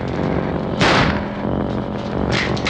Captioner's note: gunshot